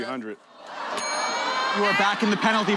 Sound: bell dings

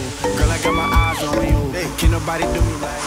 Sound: girl squeals

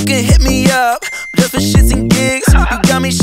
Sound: laughing

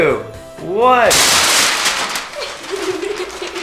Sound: paper ripping; giggling

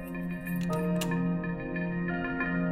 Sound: keys clanking

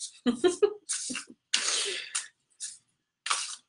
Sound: chuckling

